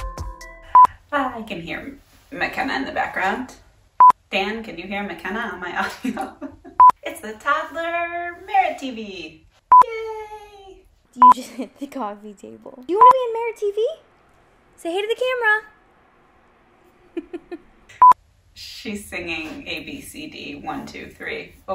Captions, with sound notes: (beep) - I can hear McKenna in the back ground. Dan, can you hear McKenna on my audio? It's the toddler Merit TV, yay. - You just hit the coffee table. You wanna be in Merit TV? Say hey to the camera. - She's singing A-B-C-D, one, two, three,